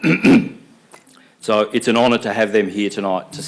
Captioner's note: clearing throat